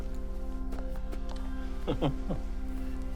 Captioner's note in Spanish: Oscar se ríe